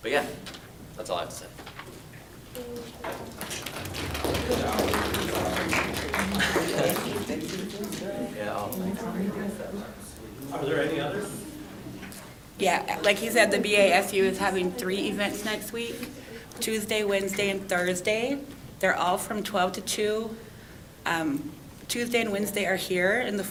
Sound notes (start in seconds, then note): 3.1 applause